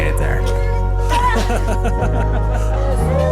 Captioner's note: laughter